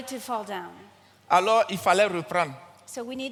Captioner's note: continues in French